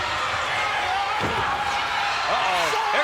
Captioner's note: body thuds